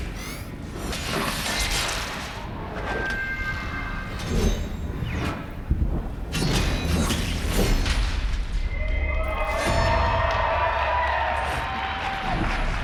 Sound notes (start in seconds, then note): 1.0 applause